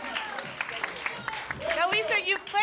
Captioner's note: applause and cheering cont